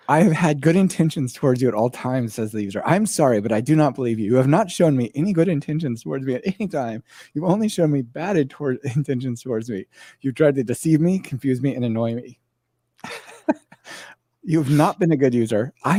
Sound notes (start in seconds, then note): 13.0 laughs